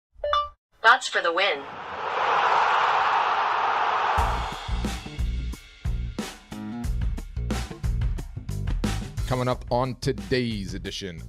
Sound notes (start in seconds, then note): 1.0 computer Synthesized Voice; 4.6 jazz music